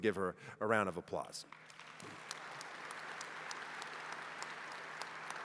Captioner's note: applause